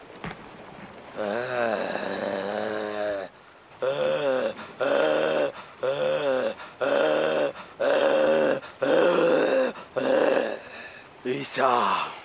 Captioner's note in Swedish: grymtande ljud; morrande ljud